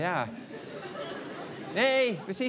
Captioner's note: laughter